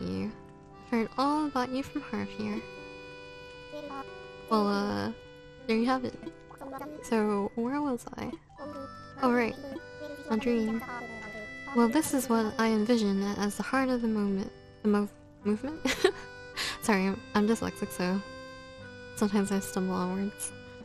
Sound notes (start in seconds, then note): 15.8 laugh